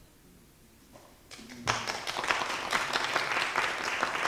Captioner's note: audience applauding